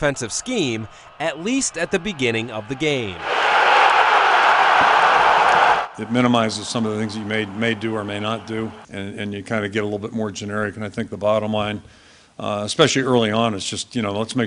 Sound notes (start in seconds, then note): 7.0 crowd